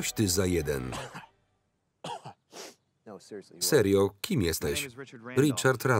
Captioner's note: coughs